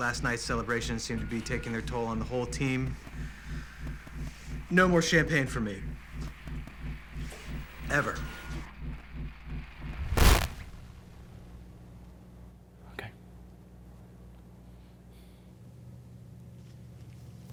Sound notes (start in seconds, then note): 9.5 static